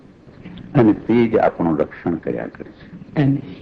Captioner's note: speaking foreign language